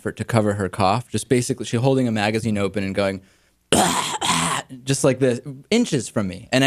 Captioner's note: imitates coughing